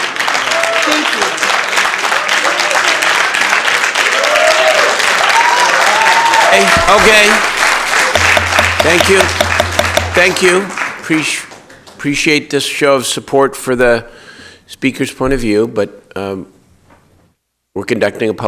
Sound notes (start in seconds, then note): 7.5 applause